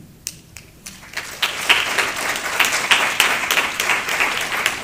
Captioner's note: applause